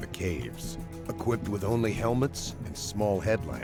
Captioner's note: voiceover